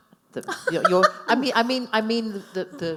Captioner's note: laughing